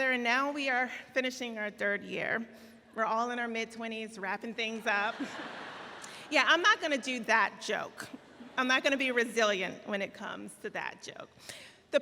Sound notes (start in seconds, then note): 5.4 laughing